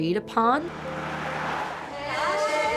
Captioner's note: car zooms